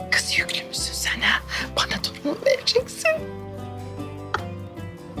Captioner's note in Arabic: يضحك